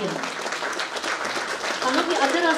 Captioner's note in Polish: oklaski